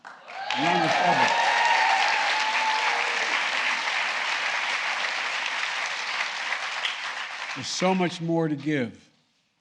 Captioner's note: applause